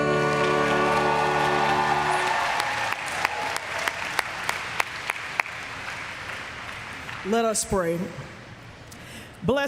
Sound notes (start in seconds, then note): 2.8 applause; 3.3 cheers